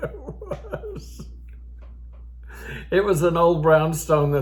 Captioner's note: old Man laughing